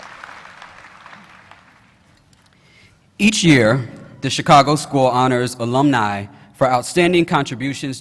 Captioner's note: applause